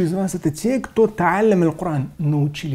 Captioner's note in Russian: говорит на арабском